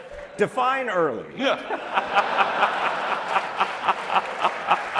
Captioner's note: laughter; laughter